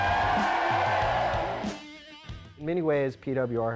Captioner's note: crowd cheering